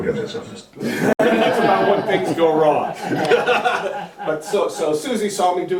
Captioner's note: laughter